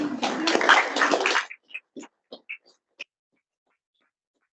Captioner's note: audience applauding